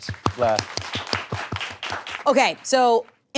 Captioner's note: crew clapping